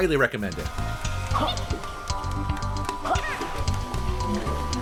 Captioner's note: game sounds